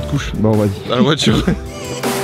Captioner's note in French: rires